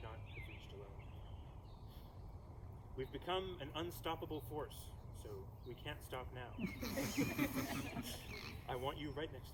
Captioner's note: laughter